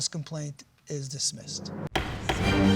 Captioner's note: bangs gavel